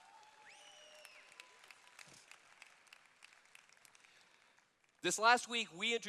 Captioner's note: cheers